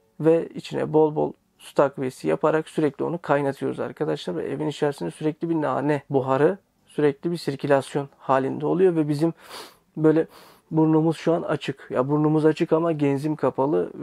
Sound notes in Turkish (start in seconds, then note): 10.3 nefes alış